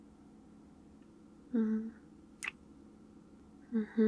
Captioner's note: kiss